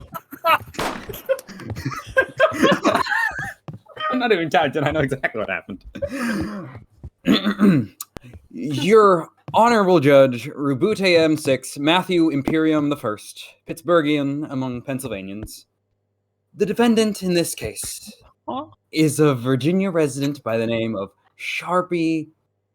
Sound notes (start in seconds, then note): 0.0 laughter; 0.4 laughter, gunshot; 1.0 laughter; 6.0 breathing in, clearing throat; 6.1 breathing in